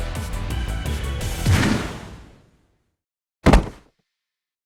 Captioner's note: thud!!